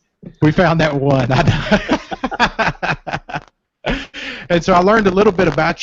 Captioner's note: laughter